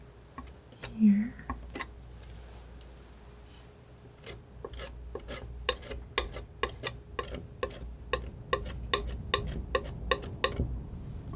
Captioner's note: tapping